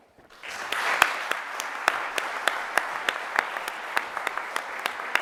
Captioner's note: audience applauding